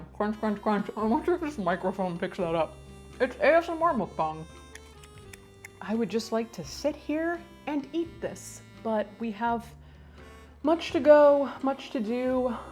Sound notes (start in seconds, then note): 4.7 chewing noisily